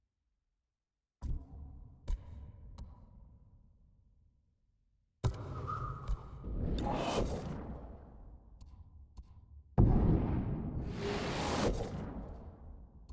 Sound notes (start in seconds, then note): 5.6 whistling